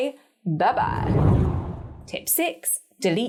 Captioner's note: air whooshing